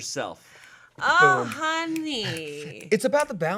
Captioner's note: snapping fingers